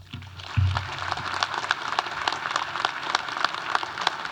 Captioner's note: audience applauding